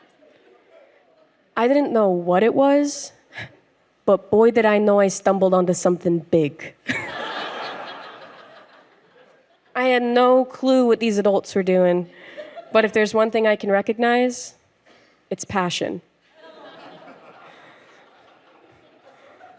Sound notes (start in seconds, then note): 6.9 crowd laughs; 16.3 audience laughs